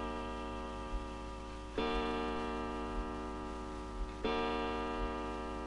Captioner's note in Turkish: Fonda duvar saatinin saat başı vuruşları başlar